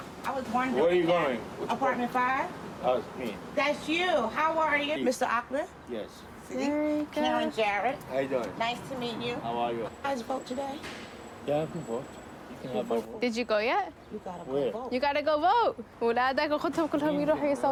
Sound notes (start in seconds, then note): 14.8 non-english speech